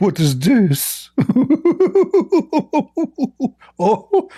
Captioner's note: Ketawa